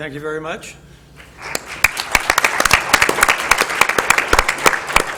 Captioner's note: applause